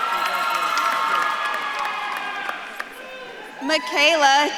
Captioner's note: audience claps and cheers